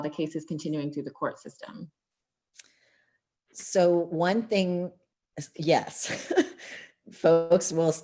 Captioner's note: laughter